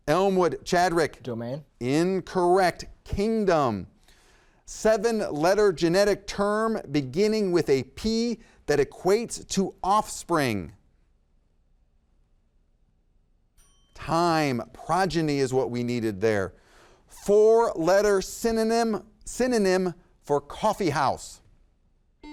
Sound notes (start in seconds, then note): 13.6 timer chimes